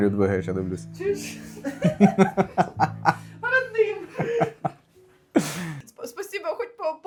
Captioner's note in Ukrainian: сміх